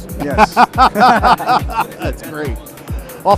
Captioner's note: laughter